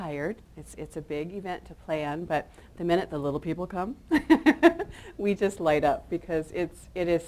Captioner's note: chuckles